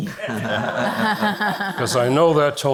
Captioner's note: all laugh